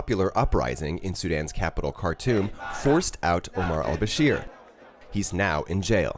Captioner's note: protests